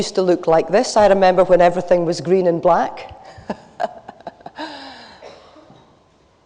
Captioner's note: laughs